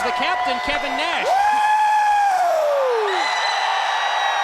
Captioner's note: Kevin cheers